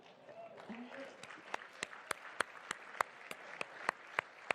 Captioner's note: applause